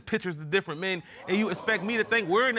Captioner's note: audience gasps